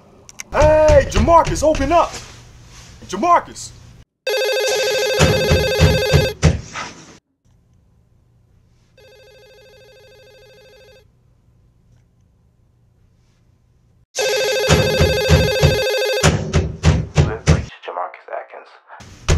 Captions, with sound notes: Hey, Jamarcus, open up! Jamarcus! [phone rings] [door knocking] [phone ringing] [door knocking] JaMarcus [voicemail]: You have reached JaMarcus Atkins.